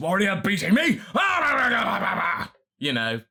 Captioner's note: rabbid vegeta snarls